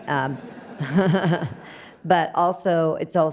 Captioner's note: audience laughs